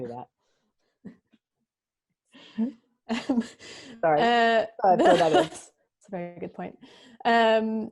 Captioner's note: laughs